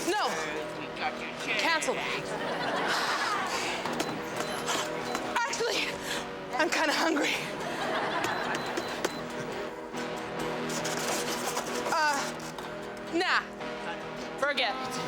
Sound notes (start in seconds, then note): 2.0 audience laughs; 5.7 sighs; 7.2 audience laughs